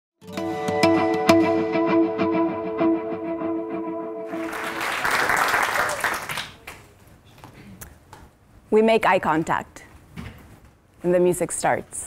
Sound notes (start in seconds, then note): 4.2 applause